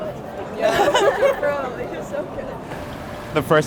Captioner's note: all laughing